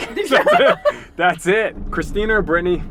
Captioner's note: laughs